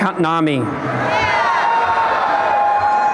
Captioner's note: cheering and applause